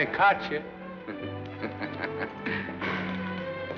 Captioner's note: chuckles